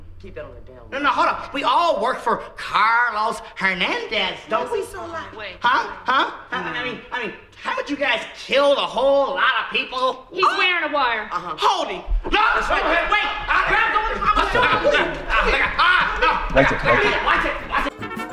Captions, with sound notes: - Keep that on the down low. - No, hold on, we all work for Carlos Hernandez don't we. - Why's he so loud? - Uh uh, wait, wait. - I mean, haven't you guys killed a whole lot of people? - He's wearing a wire. - Hold him. - No, wait. (screaming) Free the bunny.